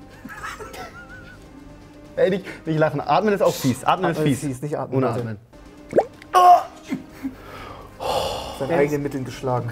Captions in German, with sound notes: (Lachen) Ey, nicht lachen. Atmen ist auch fies. Atmen ist fies, ohne atmen. - Nicht atmen. (Ächzen) Mit seinen eigenen Mitteln beschlagen.